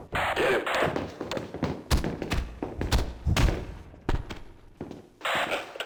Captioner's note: sounds of bodily violence